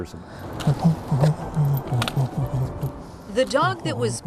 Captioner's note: humming